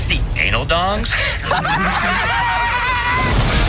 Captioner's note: laughing